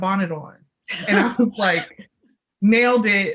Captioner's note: laughs